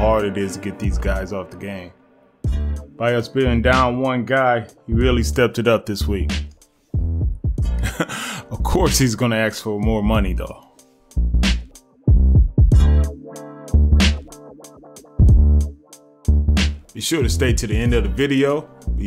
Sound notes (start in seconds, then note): 7.8 laughs; 14.6 upbeat music